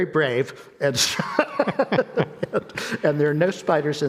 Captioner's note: both laughing